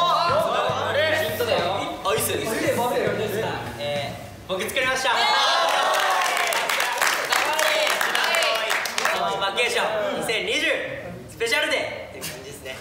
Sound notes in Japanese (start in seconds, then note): 5.6 拍手